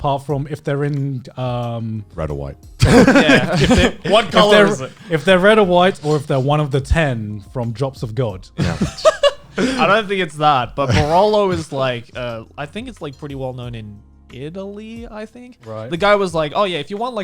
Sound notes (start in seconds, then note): 2.8 guys laughing; 8.6 guys laughing